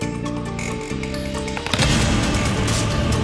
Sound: landline receiver drops

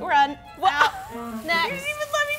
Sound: laughs

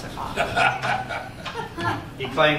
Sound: laughter

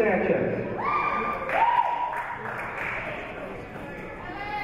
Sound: cheers

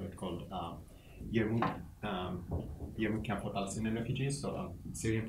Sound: speaks quietly

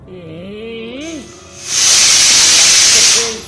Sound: pressure cooker Whistle

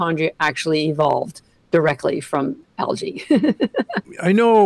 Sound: laughs

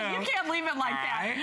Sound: laughter

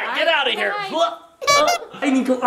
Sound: clown horn beep

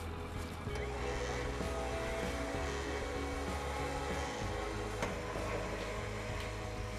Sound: wench rolling

